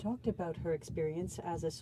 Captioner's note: speaking French